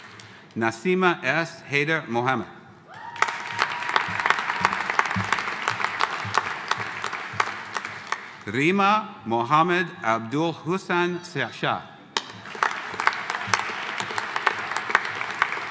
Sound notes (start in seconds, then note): 2.9 audience cheering; 3.0 audience applauding; 12.2 audience applauding